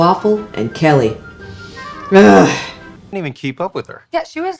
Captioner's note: heavy sigh